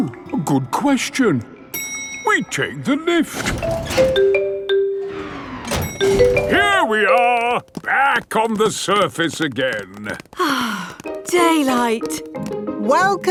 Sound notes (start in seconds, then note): 3.3 elevator dings; 10.3 sighs